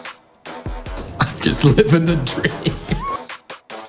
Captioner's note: laughing